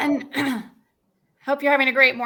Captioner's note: clearing throat